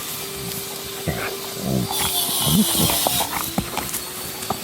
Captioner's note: dogs growling